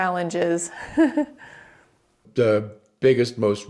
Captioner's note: laughs